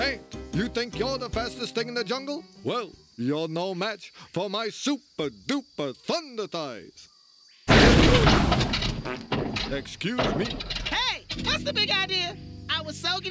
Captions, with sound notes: HEY, ANT, YOU THINK YOU'RE THE FASTEST THING IN THE JUNGLE? WELL, YOU'RE NO MATCH FOR MY SUPER, DUPER THUNDER THIGHS! (crashing) (passes gas) EXCUSE ME. HEY! WHAT'S THE BIG IDEA?